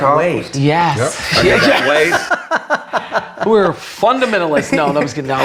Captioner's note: all laughing